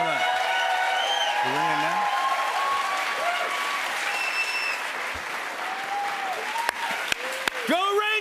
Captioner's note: cheers and applause